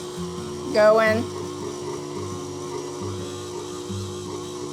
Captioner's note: mixer revving